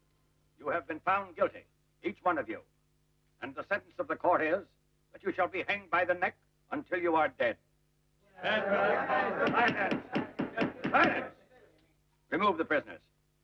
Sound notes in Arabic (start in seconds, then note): 8.4 الرجال يتحدثون مع بعضهم البعض; 9.4 ضربات المطرقة